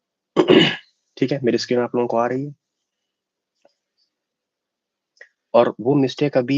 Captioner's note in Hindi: गला साफ़ करने की आवाज़